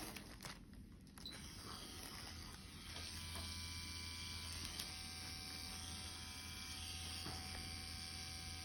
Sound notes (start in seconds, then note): 1.3 machine whirring